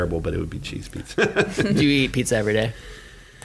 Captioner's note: laughing